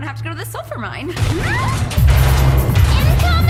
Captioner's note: crashing